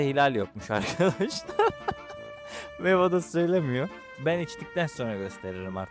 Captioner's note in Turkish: kahkaha